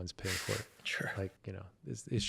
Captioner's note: laugh